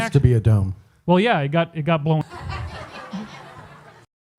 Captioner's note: audience laughs derisively